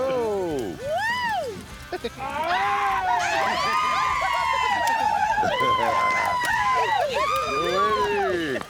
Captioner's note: cheering, laughter